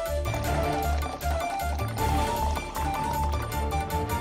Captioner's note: pouring tea